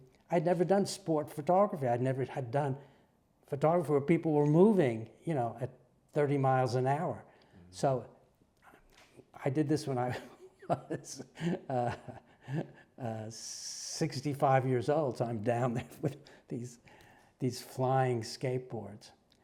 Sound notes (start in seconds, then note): 10.0 laugh